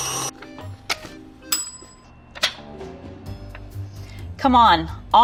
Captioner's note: bell dings